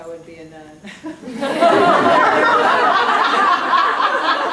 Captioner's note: audience laughing